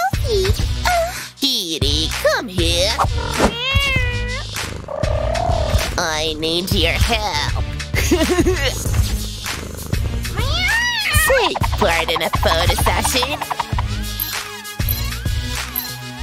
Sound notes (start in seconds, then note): 6.8 meows; 10.4 meows loudly